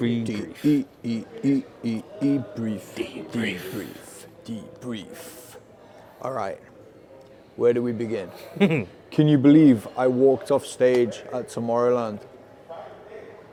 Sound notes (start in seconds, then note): 8.4 chuckling